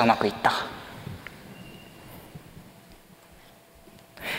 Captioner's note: silence